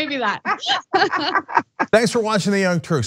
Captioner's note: laugh